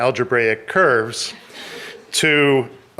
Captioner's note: audience laughing